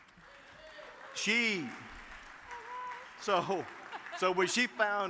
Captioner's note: audience claps